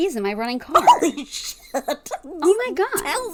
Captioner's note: laughing